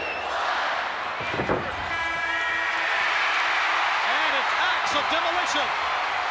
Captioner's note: applause